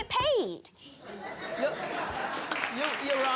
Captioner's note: applause